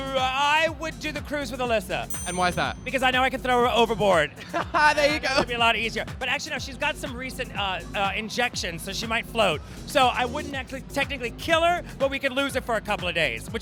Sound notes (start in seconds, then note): 4.4 laughs